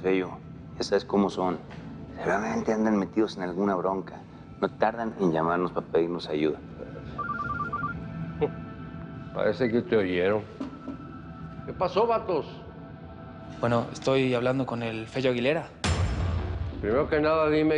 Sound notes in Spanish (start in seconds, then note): 7.1 Suena un celular; 12.0 Bip